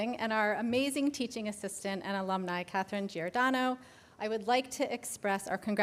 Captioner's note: none